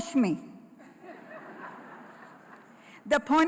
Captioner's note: laughter